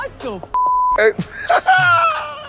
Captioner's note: laughs